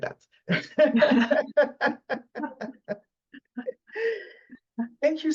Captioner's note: laughs